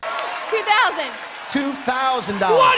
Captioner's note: crowd cheering